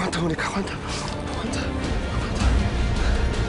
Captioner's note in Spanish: Susurrando